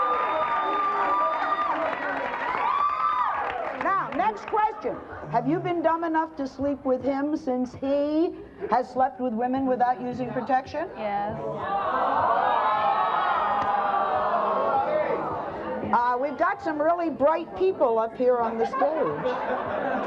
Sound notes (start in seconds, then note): 11.6 audience boos; 18.5 audience laughs